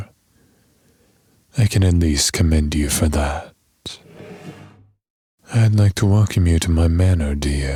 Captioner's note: chair movement